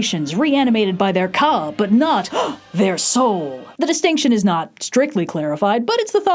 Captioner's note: gasp